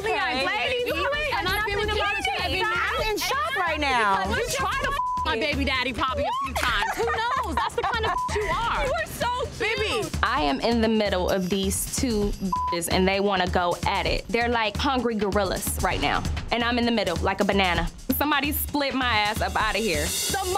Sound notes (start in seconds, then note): 0.0 group arguing; 4.9 beep; 8.0 beep; 12.4 beep